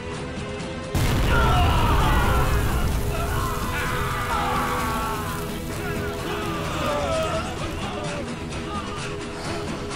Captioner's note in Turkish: Patlama sesleri; Bağırma sesleri